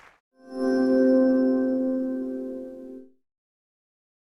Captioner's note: chime